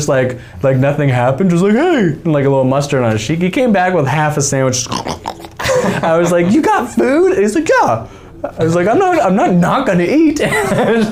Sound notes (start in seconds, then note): 4.8 making chewing sounds; 5.3 men laughing